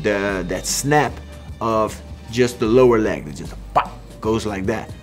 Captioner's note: exclaims